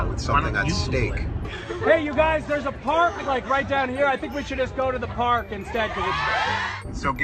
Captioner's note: cheering